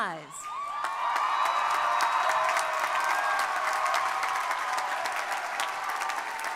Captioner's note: crowd cheering; crowd applauding